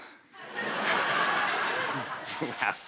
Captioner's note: laughter